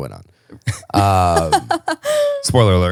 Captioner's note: laughing